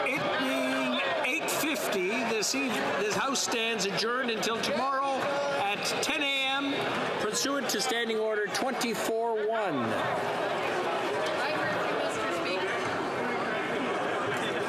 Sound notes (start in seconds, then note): 0.0 some applause; 4.9 some applause